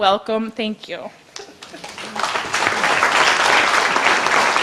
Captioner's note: audience applause